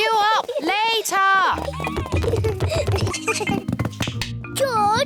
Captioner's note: both giggle